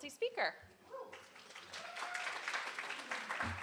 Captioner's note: applause